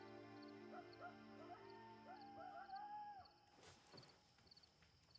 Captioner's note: rooster crowing